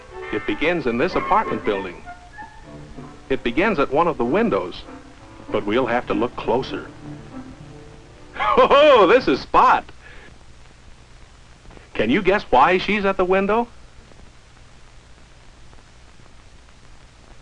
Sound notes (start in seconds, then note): 8.3 gleeful chuckling